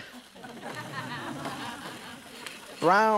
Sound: audience laughs

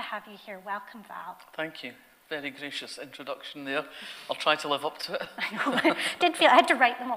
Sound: both laugh

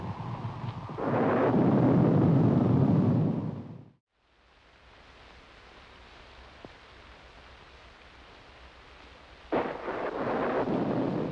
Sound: thunder continues

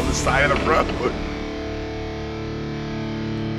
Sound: laughing

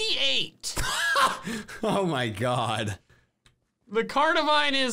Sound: laughs

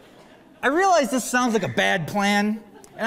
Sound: laughter

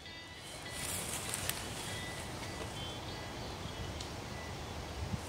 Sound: ground rustling

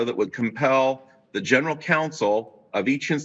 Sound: none

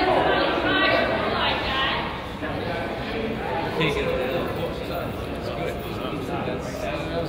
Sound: crowd chatters; coach yells

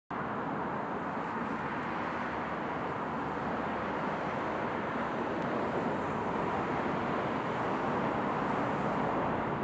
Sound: cars driving along street in the background

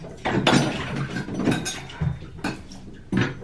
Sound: bar clacks

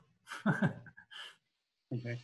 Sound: chuckling

